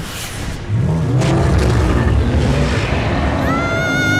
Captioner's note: Dogfish growling; Pinocchio screaming